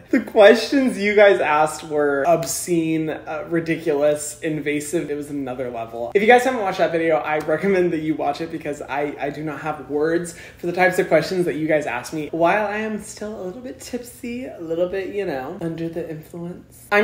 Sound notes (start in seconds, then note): none